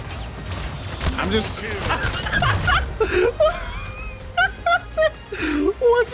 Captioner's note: laughs